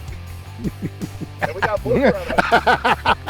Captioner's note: both laugh